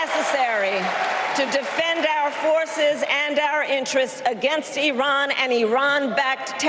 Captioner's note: applause